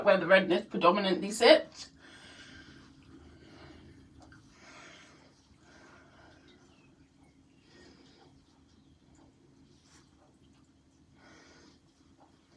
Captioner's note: breathing sounds